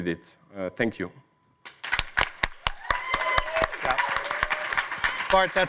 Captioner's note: cheers